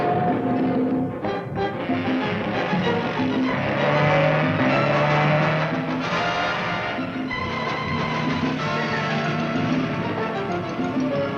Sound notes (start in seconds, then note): 3.9 car engine revving; 6.2 upbeat music